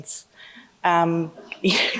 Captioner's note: laughing